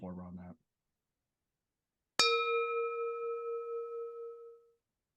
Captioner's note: bell ringing